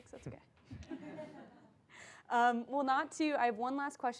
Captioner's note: laugh